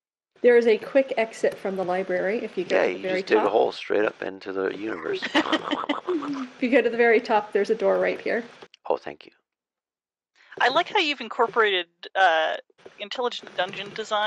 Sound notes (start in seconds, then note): 3.2 imitates digging noises